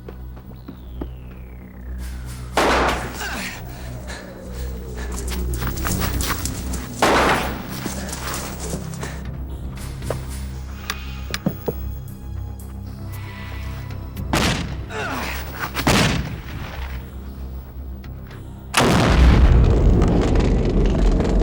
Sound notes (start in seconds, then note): 2.5 gunshot booming; 3.2 Bruce groaning; 7.0 gunshot booming; 15.9 gunshots booming; 18.7 explosions rumbling